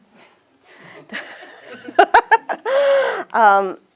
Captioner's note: laughs